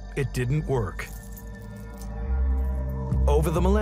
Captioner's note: gentle suspenseful music; jewels clink